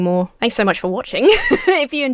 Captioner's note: laughs